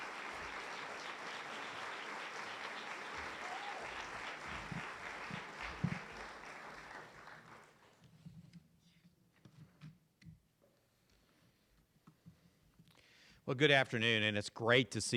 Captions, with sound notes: C! O! U-G-S! Go Cougs! [CLAPPING AND CHEERING]